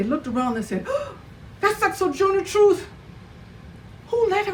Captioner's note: gasps